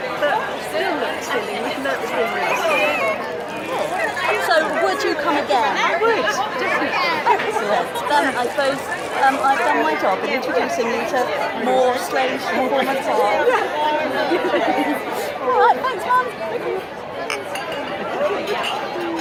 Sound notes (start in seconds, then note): 14.3 giggles